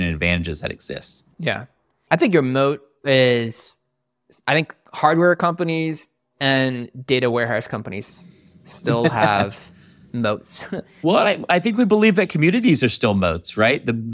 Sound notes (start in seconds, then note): 8.8 chuckling; 8.8 laughing